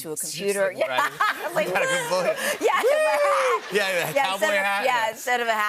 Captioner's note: laughter